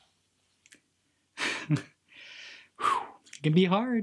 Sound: laughs

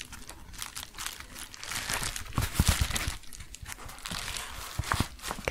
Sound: crinkling

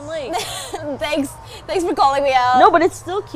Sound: chuckles

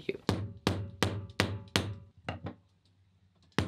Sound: tool tapping

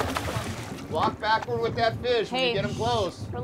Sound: fish splashing

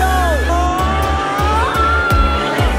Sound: people shouting; upbeat music

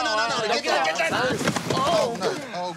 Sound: yells loudly

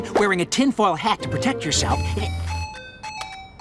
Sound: phone chiming

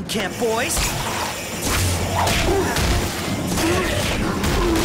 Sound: groaning

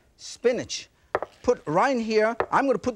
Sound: bowl thuds softly

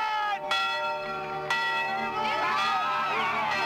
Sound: bell ringing

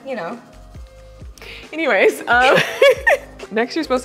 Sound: laughing

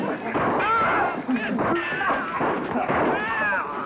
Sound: men exclaiming

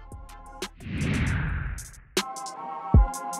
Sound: whooshes

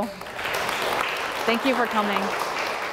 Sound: audience applause

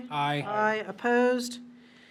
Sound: in Unison

